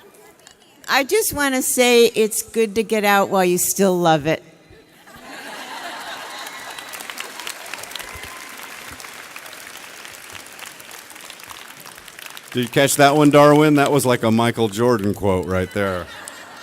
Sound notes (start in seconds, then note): 5.3 audience cheers